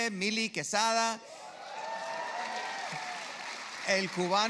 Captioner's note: cheers